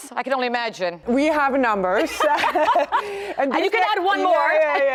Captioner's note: laughter